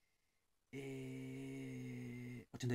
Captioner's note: eeehhhhhhhhh